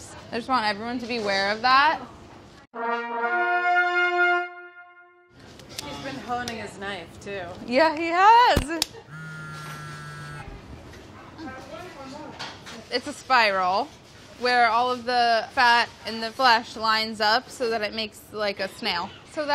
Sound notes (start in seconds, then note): 2.8 majestic music; 9.0 cell phone buzzes